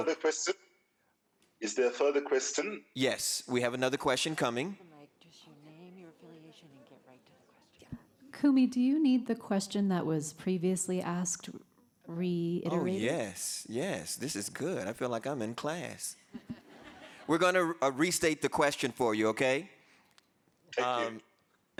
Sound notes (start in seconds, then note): 16.4 audience laughing